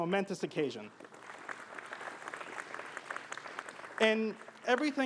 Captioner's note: applause